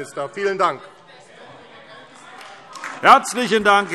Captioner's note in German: Beifall AfD - Zurufe DIE LINKE